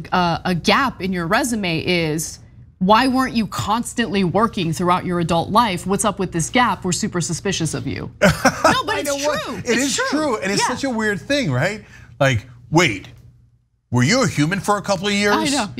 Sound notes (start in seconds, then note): 8.2 laugh